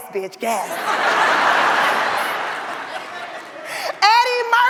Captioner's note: audience laughs